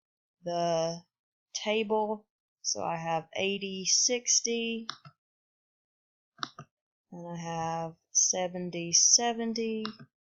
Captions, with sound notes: the table so I have eighty, sixty [click] and I have 70-70